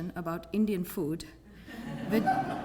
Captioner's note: laugh